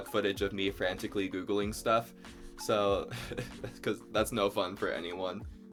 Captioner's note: laughs